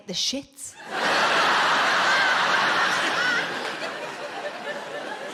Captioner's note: audience laughing